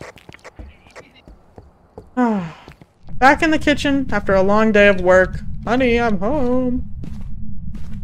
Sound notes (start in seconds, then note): 2.1 sighs